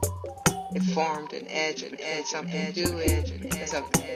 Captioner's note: echoes